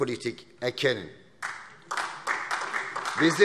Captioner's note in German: Beifall SPD